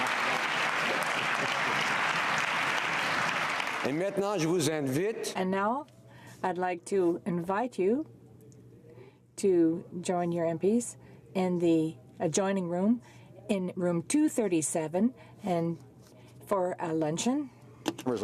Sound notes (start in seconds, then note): 0.0 cheering and Applause; 8.0 speaking French